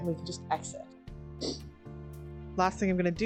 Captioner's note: sniff